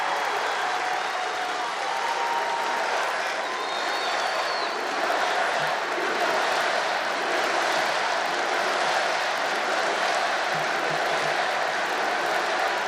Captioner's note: applause